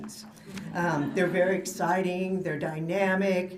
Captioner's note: laughter